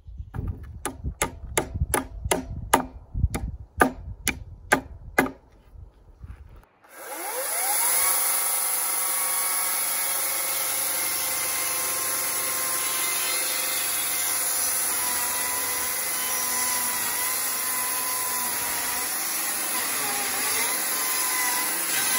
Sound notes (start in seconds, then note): 1.2 sound of a hammer hitting nails; 6.8 sound of electric chainsaw